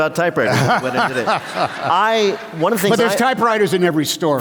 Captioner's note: laughter